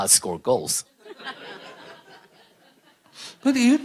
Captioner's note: questioner/Audience Laughter